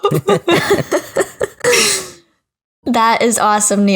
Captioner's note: laughing